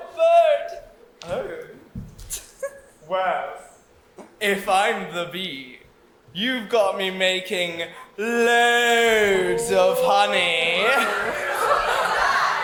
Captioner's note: general disgust from everyone